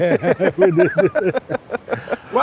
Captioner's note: laughing